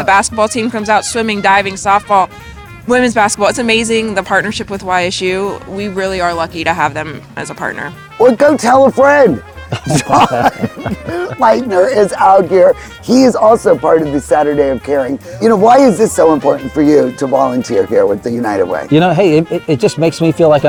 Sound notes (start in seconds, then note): 9.6 laughing